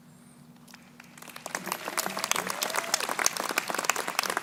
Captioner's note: crowd applauding